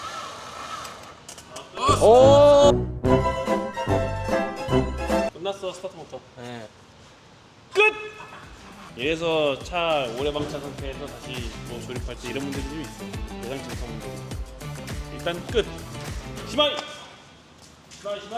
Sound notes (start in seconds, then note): 1.2 crackling